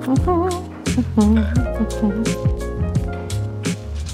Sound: girl humming

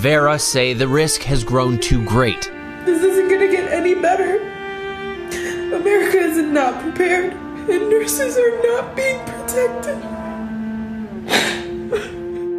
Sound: sobbing

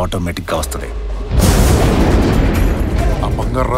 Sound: thunder claps

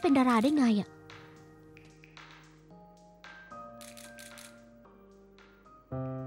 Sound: camera shutter sound

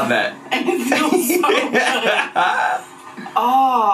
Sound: laughs loudly

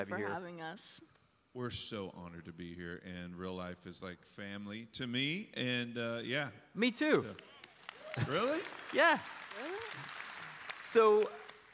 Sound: applause

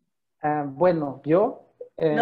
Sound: in Spanish

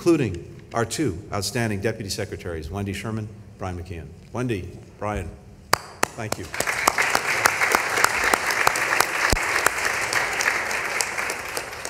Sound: applause

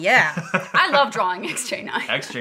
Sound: laughing

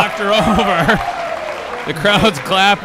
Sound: audience applauding

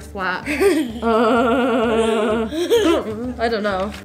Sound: laughing

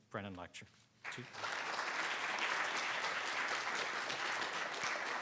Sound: congregation applauding

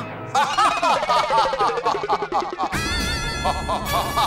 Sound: laughing

